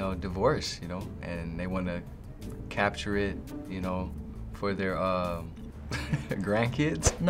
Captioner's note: laughing